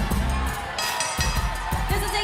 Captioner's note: bell ringing